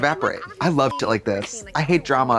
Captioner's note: beep